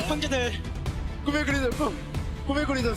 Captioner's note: Oner speaking Korean